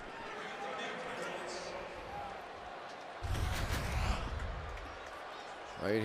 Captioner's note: pa announcement